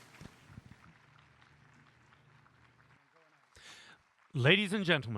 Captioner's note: applause